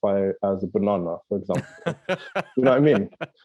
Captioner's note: laughing